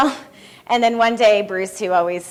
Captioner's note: laughs